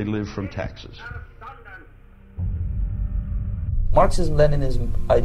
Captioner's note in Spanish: el hombre habla débilmente